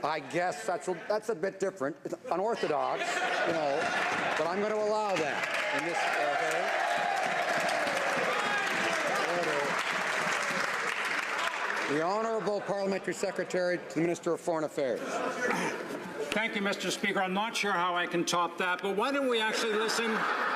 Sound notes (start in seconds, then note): 11.1 some Applause